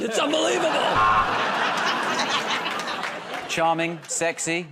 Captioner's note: buzzer